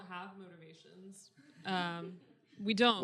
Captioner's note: audience giggling